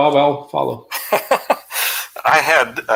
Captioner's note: laughter